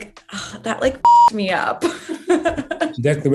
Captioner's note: beep